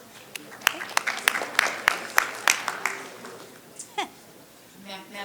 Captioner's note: audience clapping